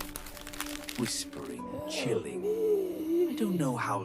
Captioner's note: whispering, chilling